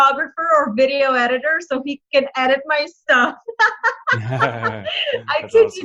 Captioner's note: laughs